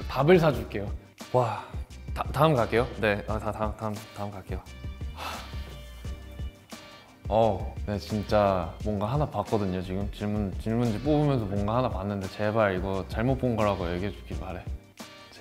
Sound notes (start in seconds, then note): 0.2 speaks Korean; 5.1 sighs; 8.2 speaks Korean